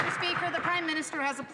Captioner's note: some Applause